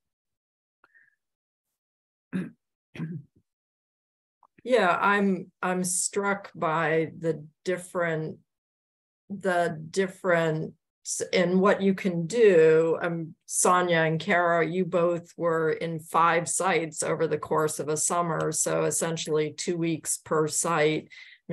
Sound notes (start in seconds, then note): 2.3 clears throat